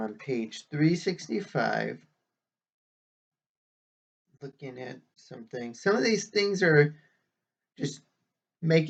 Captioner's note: whispering; resumes normal voice